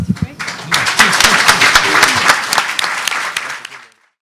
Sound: audience applauding

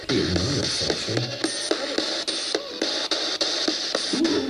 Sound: mumbles

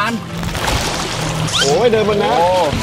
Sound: water waving

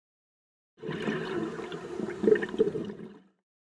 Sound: underwater exhalation

